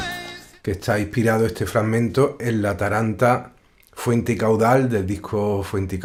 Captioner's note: musician speaking in Spanish